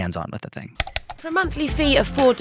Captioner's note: computer mouse clicking